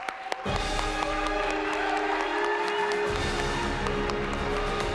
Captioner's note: audience applauding